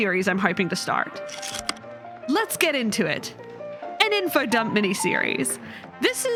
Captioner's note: projector slide click